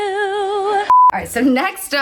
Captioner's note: beeping